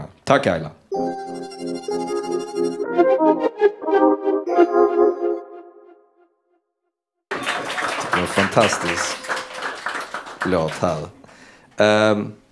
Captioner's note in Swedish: Applåder